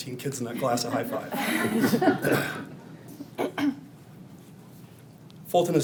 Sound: audience laughing

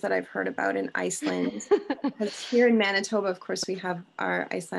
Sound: laughing

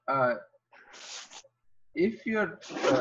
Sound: shuffling

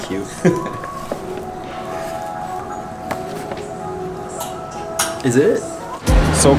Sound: laughs

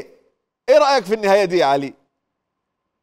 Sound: Egyptian accent

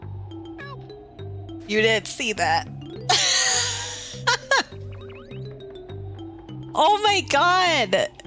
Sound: laugh

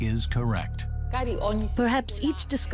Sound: non-english speech

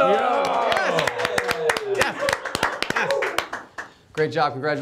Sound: studio claps and cheers

